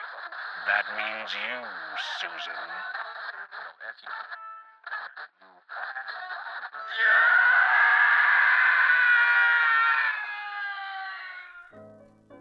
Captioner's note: radio static